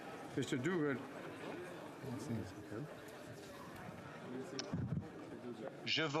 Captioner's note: speaking French